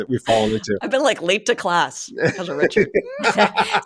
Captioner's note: laughing